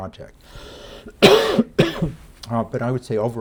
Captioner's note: lecturer coughing